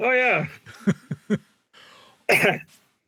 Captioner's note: laughing